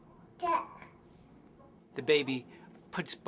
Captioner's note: baby babbling